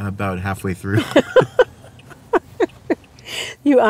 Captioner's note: laughter